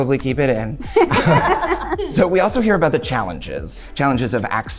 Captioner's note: all laughing